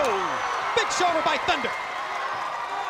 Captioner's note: crowd cheering